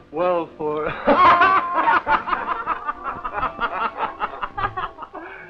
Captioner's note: laughter